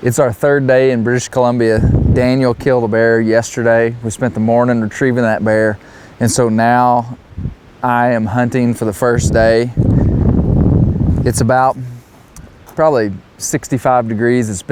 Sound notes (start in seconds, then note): none